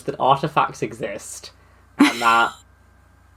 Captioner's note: laughs